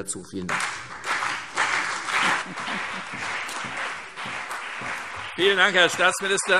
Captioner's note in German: Beifall CDU und BÜNDNIS 90/DIE GRÜNEN